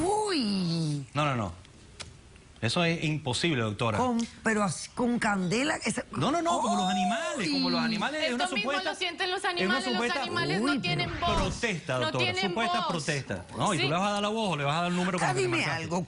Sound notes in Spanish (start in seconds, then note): 8.7 Hablan al unísono; 13.9 Comentarios al unísono